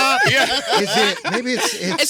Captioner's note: laughter